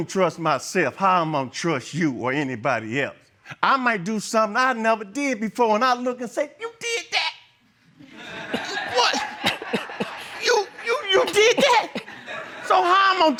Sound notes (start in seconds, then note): 8.0 audience laughs